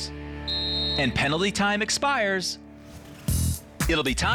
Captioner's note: blowing whistle; air whooshing